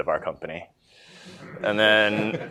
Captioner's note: laughter